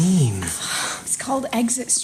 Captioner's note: surprised, then exasperated sigh